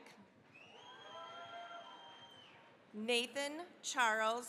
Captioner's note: cheering, applause